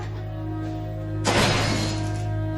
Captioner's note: door slams